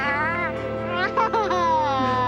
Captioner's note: laughing